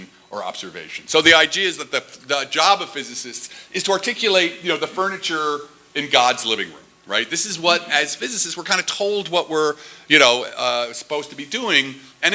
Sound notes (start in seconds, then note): none